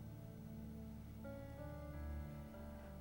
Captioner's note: none